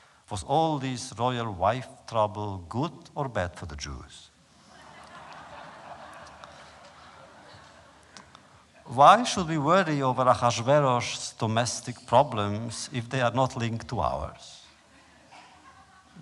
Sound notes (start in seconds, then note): 4.6 laughter